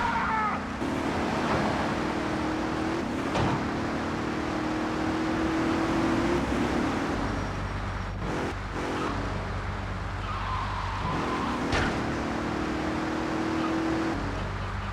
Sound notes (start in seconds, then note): 0.0 muffled yelling; 2.2 muffled yelling